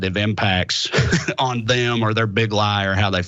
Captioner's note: laugh